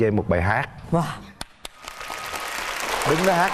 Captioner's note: applause